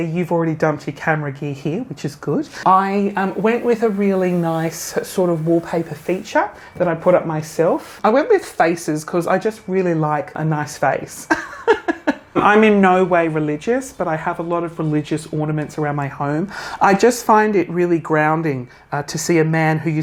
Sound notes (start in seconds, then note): 11.3 laughing